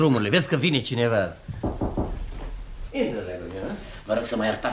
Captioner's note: sound - knocks on the door